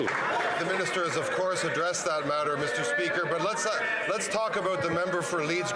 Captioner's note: some Applause